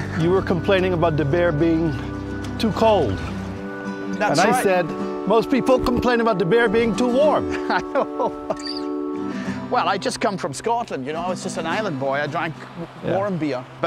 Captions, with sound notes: >> You were complaining about the beer being too cold. >> That's right. >> And I said most people complain about the beer being too warm. >> (laughing). Well, I'd just come from Scotland, you know? I was just an island boy, I drank warm beer.